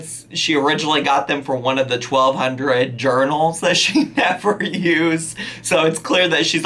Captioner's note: laughing